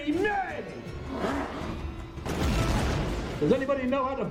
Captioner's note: Geneshua growls